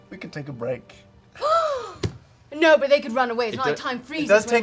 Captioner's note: gasps